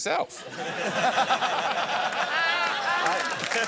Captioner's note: laughter